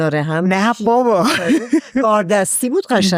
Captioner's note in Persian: خنده